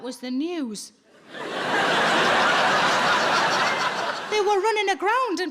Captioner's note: audience laughing